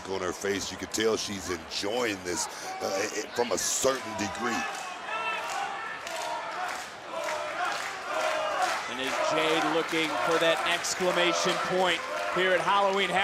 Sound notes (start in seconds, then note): 6.0 crowd chants "cora"